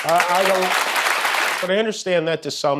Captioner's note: applause